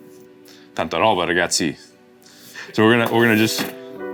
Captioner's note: speaks Italian